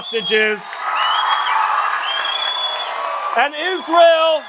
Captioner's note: audience applauds and cheers louder